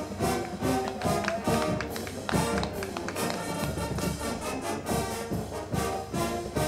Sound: band music; crowd clapping

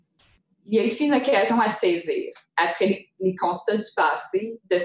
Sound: speaking in French

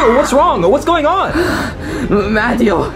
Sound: Luigi panting

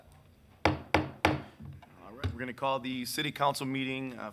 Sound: gavel slumming

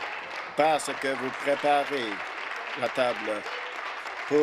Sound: some Applause

